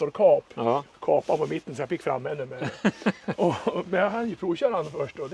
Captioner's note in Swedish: skratt